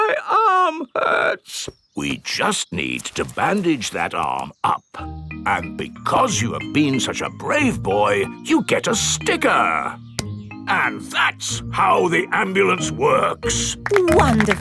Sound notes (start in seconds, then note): 0.2 in teddy's voice; 2.5 in normal voice